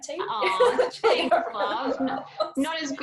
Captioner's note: laughs